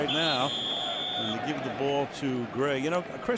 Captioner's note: whistle